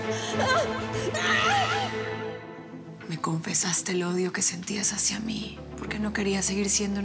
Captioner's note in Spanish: gritos